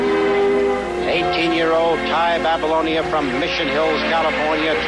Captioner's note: soundbite of archived recording